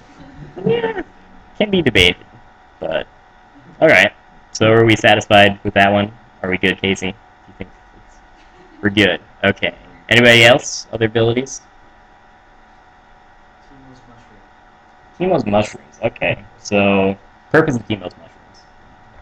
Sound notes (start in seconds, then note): 0.5 weird cat noise